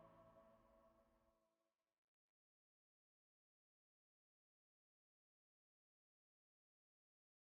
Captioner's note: no audio